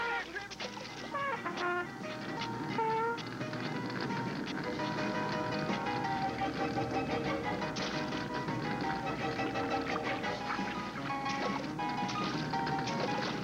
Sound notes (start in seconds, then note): 1.3 horn playing; 2.7 splashing